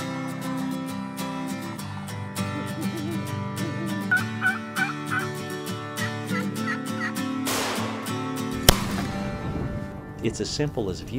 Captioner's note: wildlife calls & rifle shots